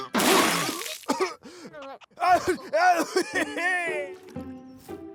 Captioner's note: choking; laughing